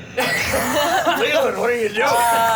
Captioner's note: laughs